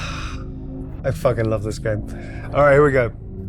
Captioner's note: sighing